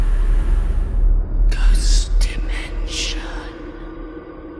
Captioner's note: ghostly Voice